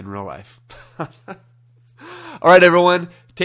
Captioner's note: chuckling